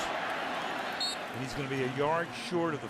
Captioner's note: whistle